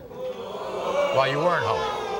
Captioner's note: audience oohs